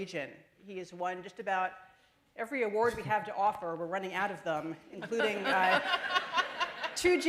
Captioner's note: laughter